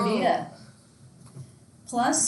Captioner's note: student noise drowns other sounds